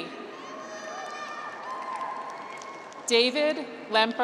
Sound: graduates cheer

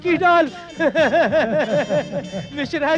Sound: laughs

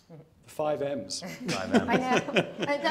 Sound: participants laughing

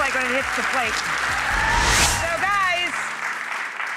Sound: audience applauding

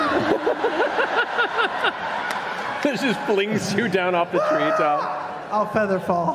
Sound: yells

